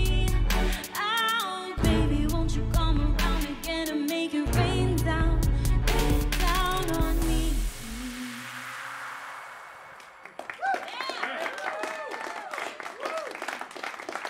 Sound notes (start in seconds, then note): 8.7 ending note fades; 10.0 cheers and applause